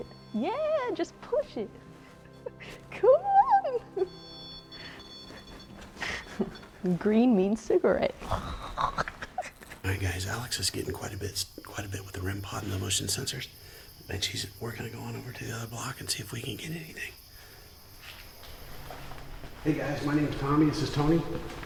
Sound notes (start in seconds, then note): 3.9 REM pod beeping